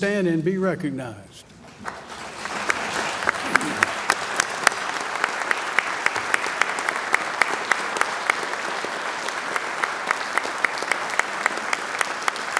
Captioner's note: applause